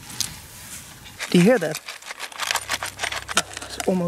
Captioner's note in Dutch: voorwerpen rammelen